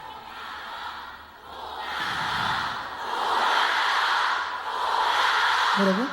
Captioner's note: fans chanting "thank you"